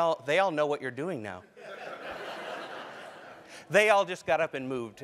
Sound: laugh

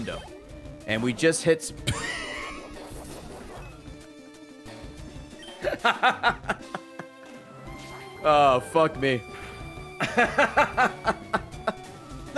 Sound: laughs

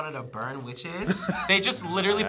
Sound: laughs

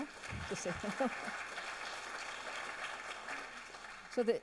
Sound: audience applauds

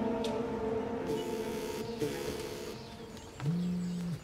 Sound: cell phone rings

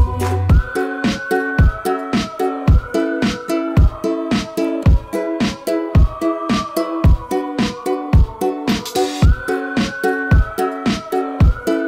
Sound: whistling

